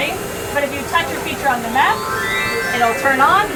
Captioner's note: electronic bells ring